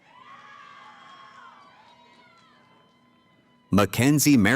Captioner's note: cheering